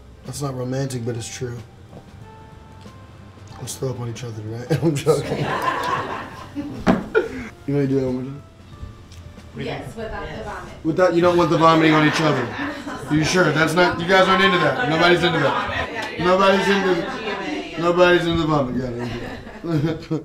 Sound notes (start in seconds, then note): 4.7 laughing; 6.8 thump